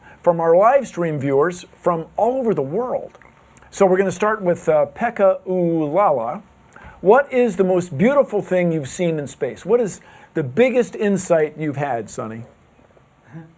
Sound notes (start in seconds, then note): none